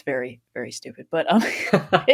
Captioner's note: laughing; laughs